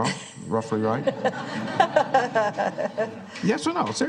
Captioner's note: laughter